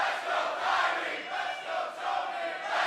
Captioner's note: fans chanting